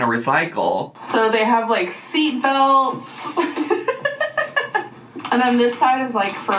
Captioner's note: laughing